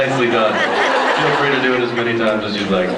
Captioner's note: laughs